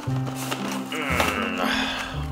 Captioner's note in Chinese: 神奇的呻吟